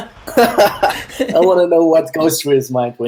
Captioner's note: laughter